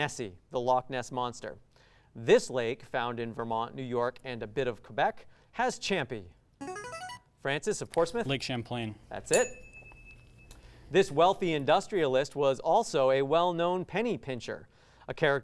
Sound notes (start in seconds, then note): 6.6 ring-in sound; 9.3 ding sound